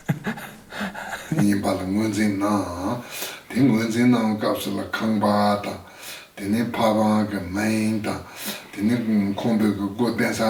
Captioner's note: foreign Language